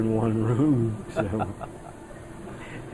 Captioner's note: laughs